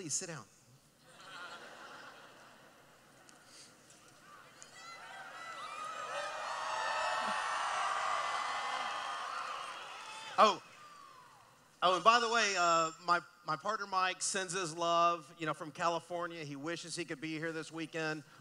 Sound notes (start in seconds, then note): 1.1 laughing; 4.3 cheering